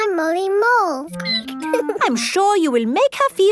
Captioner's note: squeaking